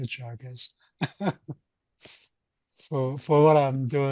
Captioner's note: chuckles